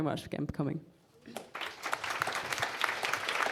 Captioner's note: applause